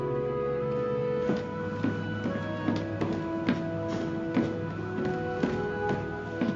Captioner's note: footsteps echo